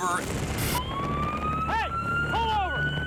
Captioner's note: siren blaring